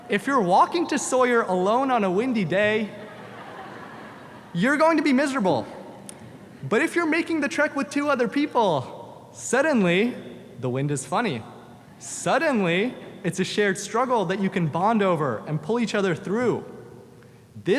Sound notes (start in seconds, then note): 2.7 audience laughs